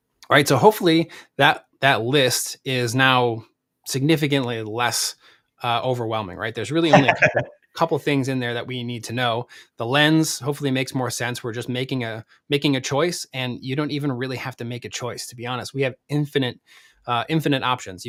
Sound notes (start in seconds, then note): 6.9 laughs